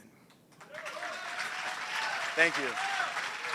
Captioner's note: applause